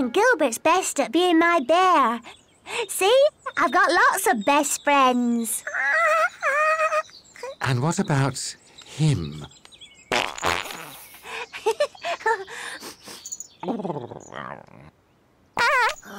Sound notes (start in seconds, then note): 6.8 baby babbles; 10.1 passes wind; 10.9 giggles; 12.8 Puss sniffs